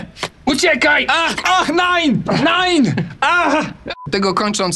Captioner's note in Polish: jęk z bólu